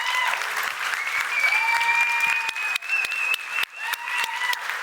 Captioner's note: applause; whistles